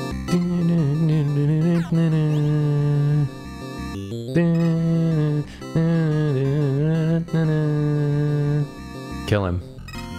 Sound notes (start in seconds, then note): 0.1 humming